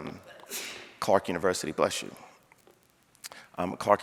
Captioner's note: audience member sneezing